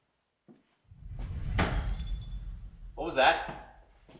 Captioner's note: air whooshing; glass shattering